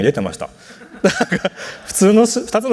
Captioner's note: laughs